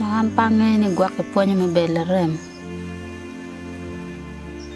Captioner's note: foreign language